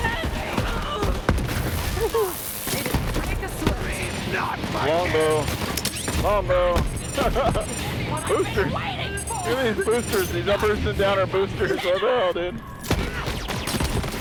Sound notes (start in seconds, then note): none